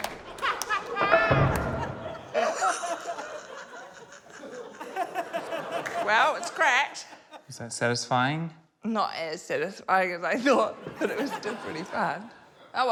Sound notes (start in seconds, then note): 2.5 laughs